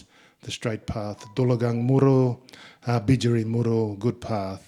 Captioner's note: speaking in Ngunnawal